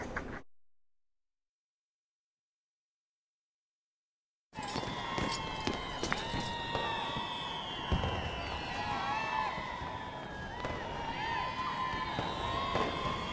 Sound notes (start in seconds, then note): 5.4 people cheering